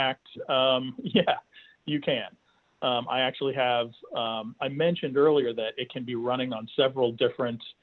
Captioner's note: chuckles